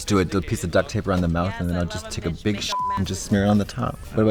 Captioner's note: beep